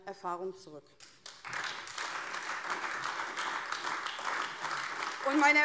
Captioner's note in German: Beifall AfD